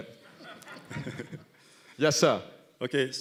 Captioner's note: laughing